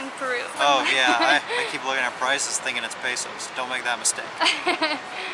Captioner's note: giggles